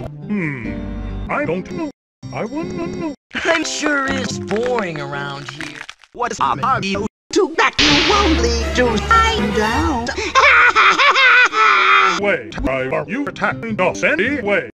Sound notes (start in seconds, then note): 5.2 bone breaking intensifies; 10.2 laughs hysterically